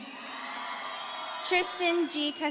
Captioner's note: audience cheering